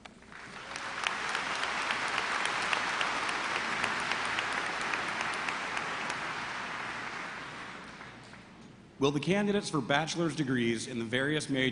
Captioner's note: applause